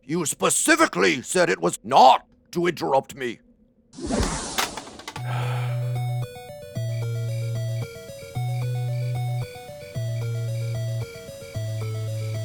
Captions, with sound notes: you specifically said it was not to interrupt me. [Magical explosion] [Long sigh]